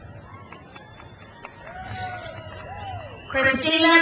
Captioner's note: crowd cheers